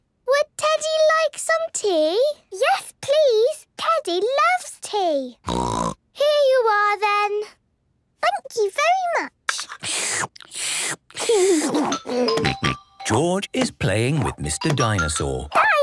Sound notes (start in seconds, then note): 5.4 snort; 9.5 slurping; 11.2 giggles